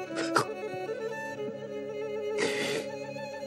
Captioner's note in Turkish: Ağlıyor